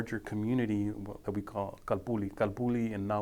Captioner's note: speaking foreign language